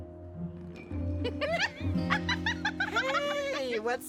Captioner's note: laughing